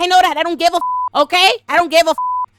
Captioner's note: beep